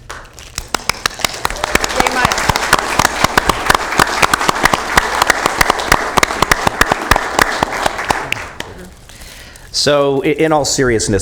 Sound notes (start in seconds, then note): 7.3 applause